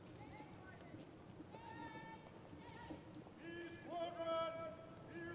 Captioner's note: officers shout commands